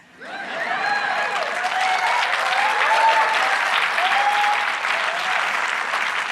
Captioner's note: audience clapping and cheering